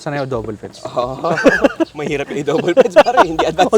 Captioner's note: laughs